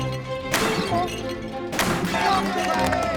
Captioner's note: clay pigeon explodes; gunshot; clay pigeon explodes; cheering, applause